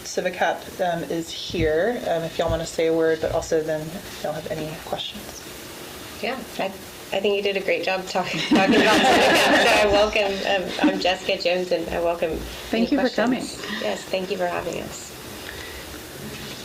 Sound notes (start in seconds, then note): 8.3 laughs